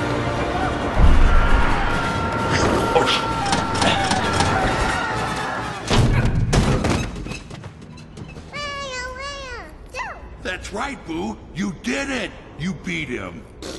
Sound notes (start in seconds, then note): 5.8 multiple Loud Thuds; 8.5 baby gibberish; 13.6 pffft